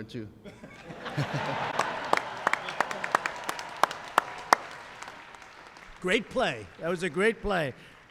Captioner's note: laughter and applause